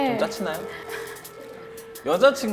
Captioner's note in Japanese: 笑…